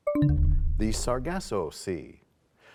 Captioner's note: bell chimes, time expires